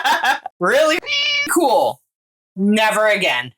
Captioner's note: meow